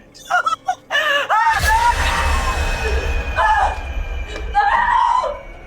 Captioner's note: screams